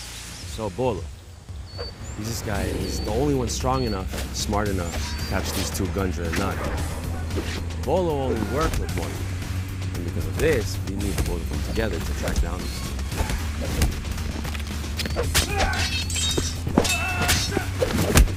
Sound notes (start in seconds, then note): 15.0 metal clinking; 15.3 men grunting